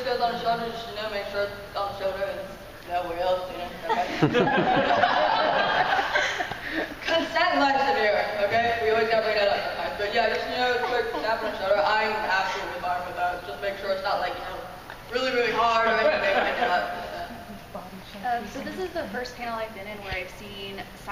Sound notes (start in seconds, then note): 3.8 laughing